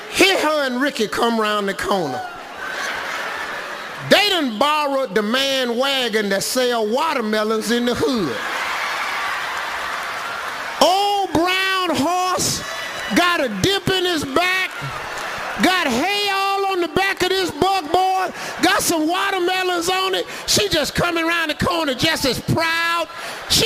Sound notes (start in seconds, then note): 8.0 audience laughs; 8.4 audience applauding